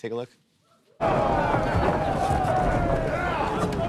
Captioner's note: men shouting